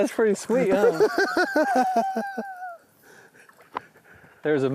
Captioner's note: laughs